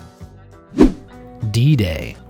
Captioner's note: image whooshing